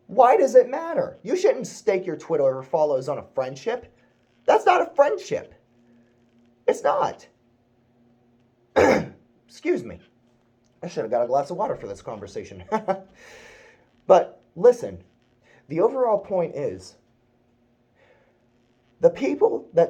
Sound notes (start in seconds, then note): 8.8 ahem